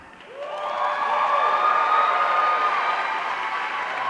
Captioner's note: audience cheering